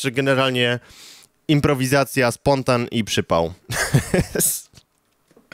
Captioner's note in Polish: śmiech